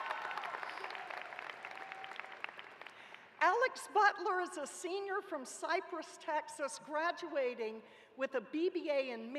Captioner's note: cheers and applause